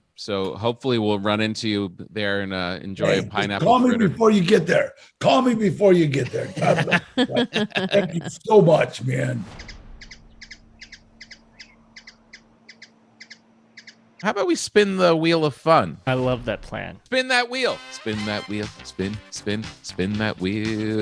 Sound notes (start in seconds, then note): 9.5 bird chirping